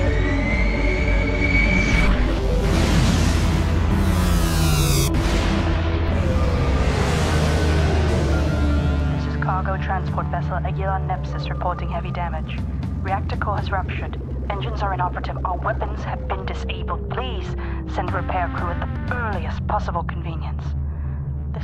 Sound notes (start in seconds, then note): 4.2 portal buzzing; 7.2 spacecraft buzzing; 10.0 apprehensive percussion